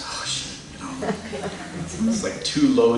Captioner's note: laughter